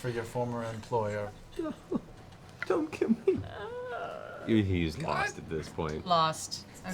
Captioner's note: whimpering